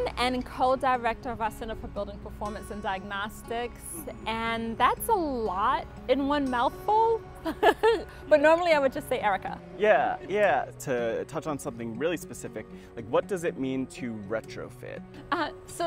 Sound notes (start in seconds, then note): 7.4 laughs